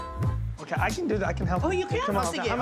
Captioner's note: Speaks Tagalog